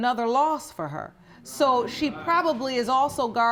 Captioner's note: audience exclaiming in agreement